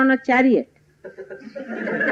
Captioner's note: laughter